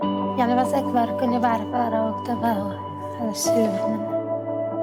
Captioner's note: speaking foreign language